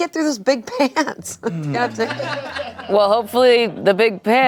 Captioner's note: everyone laughs